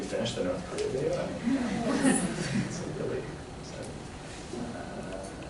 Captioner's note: laughter